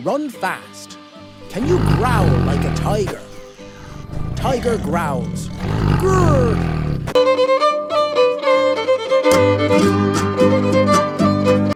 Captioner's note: tiger growls: "Grrrr!"